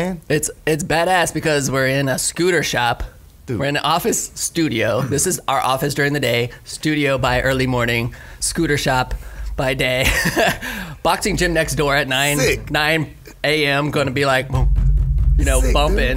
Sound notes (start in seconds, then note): 10.0 laughs; 14.9 pounds table